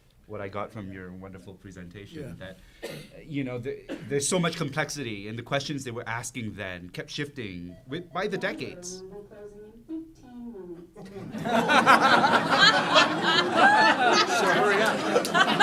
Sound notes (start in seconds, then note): 9.0 announcement in overhead speaker: "closing in fifteen minutes"; 11.1 laughter